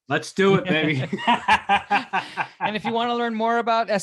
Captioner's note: laughing